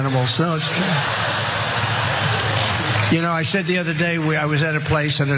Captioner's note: laugh